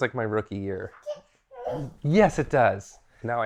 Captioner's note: child cooing off camera